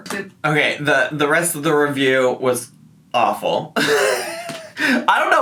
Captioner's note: laughs